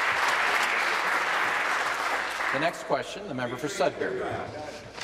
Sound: applause

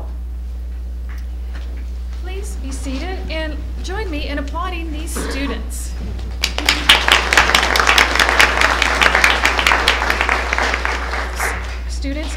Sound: applause

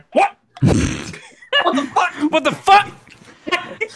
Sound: snickers

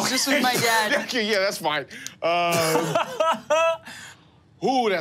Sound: laughs

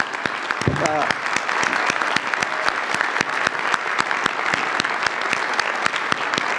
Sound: audience applauds; claps; audience applauds

